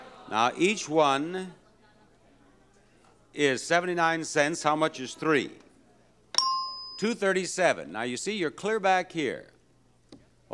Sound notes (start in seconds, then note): 0.0 audience reprobating; 6.3 bell dings